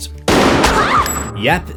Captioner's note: screams